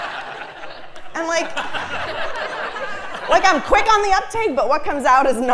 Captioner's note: laugh